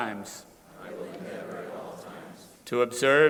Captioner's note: crowd repeating